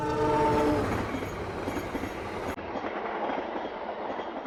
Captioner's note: train horn blows; train rattles